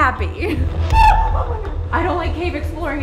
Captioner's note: screams